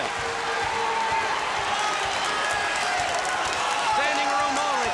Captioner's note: crowd chatter; crowd cheering